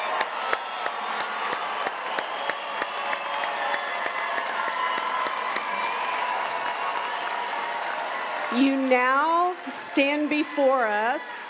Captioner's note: cheering and applause